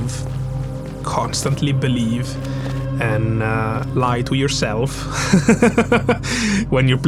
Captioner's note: laughing